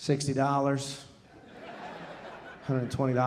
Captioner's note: audience laughing